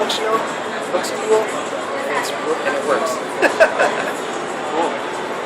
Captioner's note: laughs